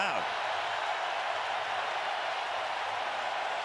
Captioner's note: crowd cheering